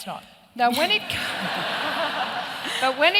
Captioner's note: laughter